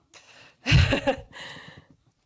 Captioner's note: laughs